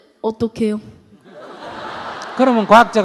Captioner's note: audience Laughter